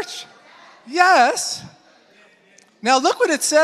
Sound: congregation affirming

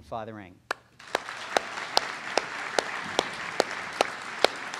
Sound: audience applauds

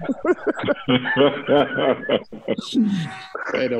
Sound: laughter

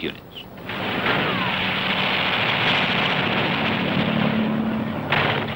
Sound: machine guns booming

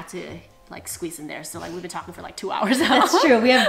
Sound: laughs

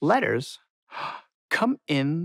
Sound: gasping

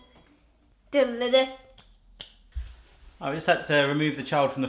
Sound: hums theme

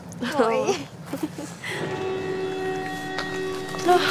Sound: the bell rings

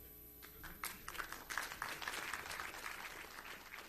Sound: applause

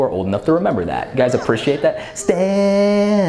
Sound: audience murmurs

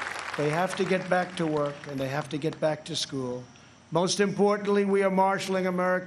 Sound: applause

